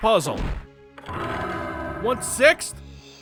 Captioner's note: rattle!